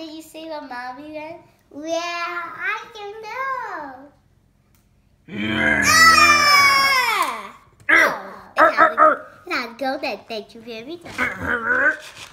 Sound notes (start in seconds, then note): 5.3 screams